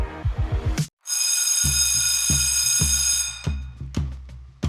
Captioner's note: bell ringing